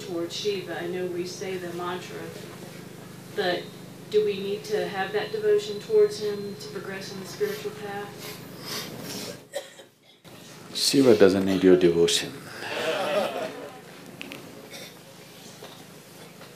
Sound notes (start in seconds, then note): 12.6 laughter; 12.6 笑聲